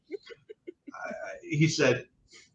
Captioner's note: laughing